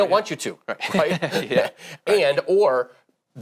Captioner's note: laughing